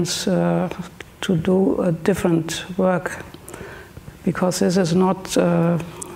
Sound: speaks German

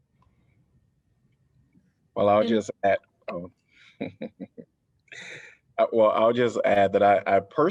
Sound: laughter

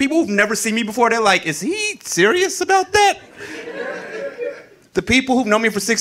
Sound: audience laughing

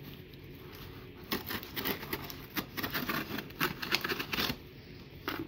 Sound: knife glides through the tape

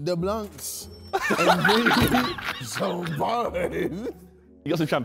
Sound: men laughing

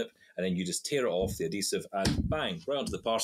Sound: slaps table

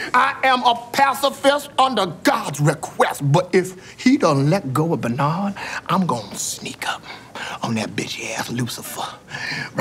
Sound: none

